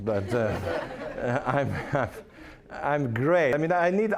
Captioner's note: audience laughing